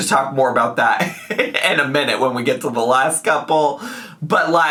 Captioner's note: laughs